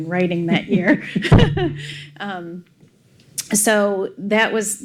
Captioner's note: laughs